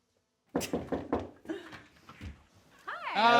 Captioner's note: knock at door